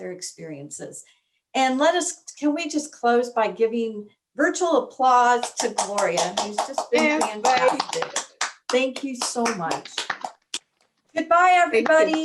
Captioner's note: applause